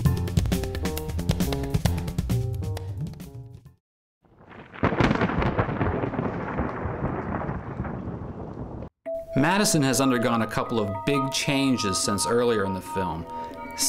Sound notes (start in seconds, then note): 4.3 thunder rumbling